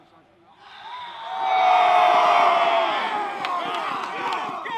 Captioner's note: trainees cheering